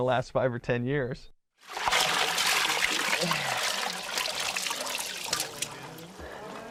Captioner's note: water splashes